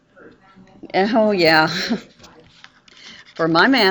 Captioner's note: lauging